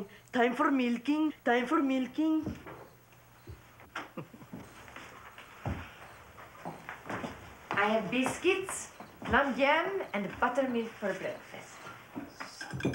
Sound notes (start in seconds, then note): 3.9 mother chuckling